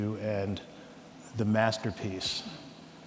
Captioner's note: none